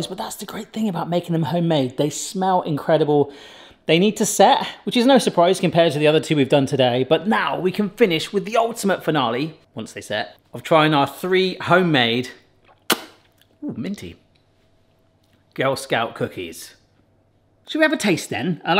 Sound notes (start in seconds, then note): 12.6 sucking finger